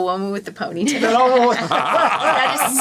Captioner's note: all laughing